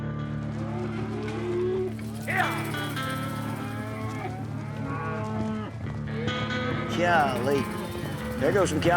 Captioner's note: cows moo